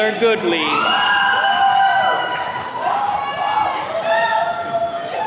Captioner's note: attendees cheering